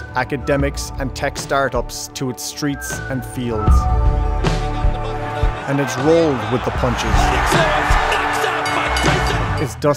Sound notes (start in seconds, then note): 4.4 crowd cheering in background